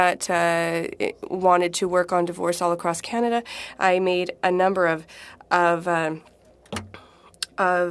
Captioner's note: speaking French